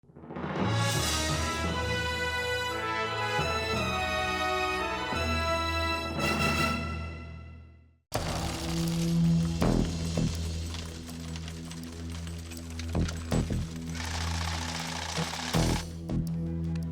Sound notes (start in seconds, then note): 0.1 dramatic music; 8.2 coins clanking; 14.2 machine whirring; 16.7 dramatic music